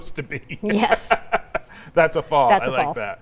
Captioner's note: laughing